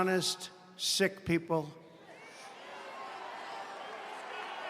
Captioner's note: cheering and applause